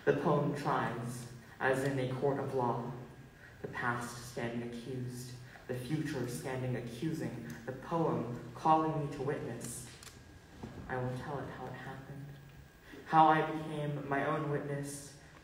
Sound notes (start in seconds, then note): none